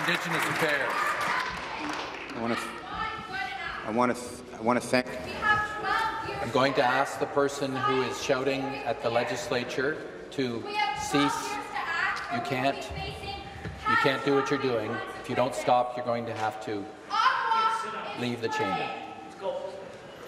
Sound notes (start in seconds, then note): 0.0 applause; 7.8 voice shouting; 16.8 woman shouting